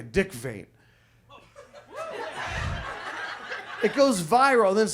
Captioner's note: audience laughs